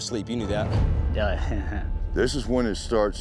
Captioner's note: chuckles